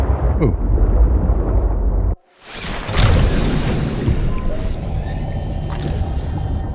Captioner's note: water splashing